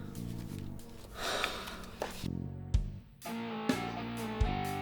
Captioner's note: sighs